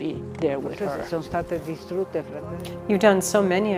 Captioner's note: speaking in foreign language